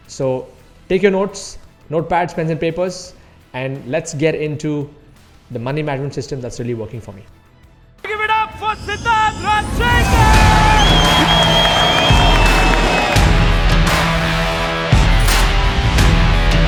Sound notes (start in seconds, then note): 10.1 applause; 13.7 rock music